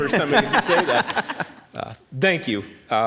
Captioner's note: laughter